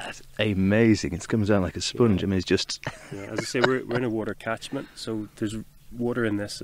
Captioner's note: chuckles